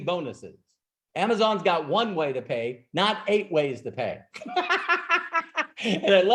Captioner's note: laughs